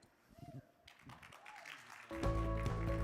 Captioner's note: crowd applauding; bright music